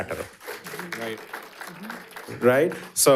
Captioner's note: audience applauding